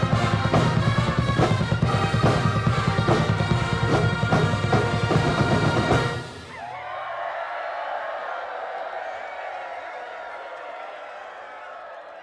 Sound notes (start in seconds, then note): 6.8 crowd cheering